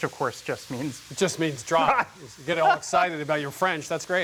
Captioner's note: laughs